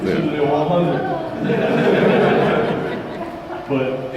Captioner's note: crowd laughter